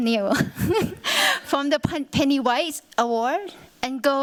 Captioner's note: chuckles